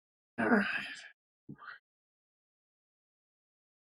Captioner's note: sighing